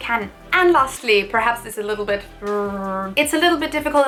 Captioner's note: groans